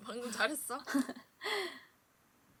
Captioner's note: haha